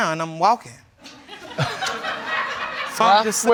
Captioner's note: audience laughing